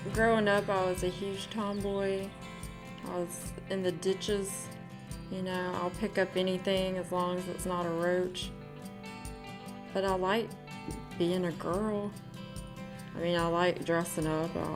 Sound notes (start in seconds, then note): none